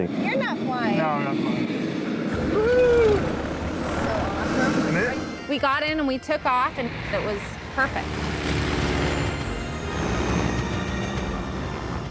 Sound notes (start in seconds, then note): 8.5 airplane engine roaring; 10.7 bright music